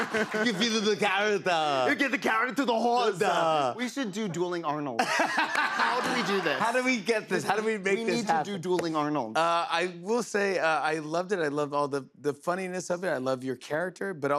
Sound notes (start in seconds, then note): 0.0 laughter; 3.6 normal voice; 5.0 laughing